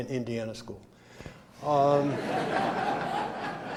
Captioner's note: laughter